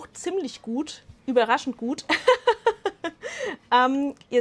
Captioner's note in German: Lachen